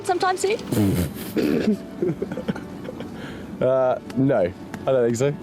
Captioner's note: William laughs